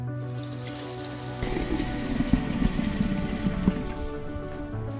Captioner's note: glass filling sounds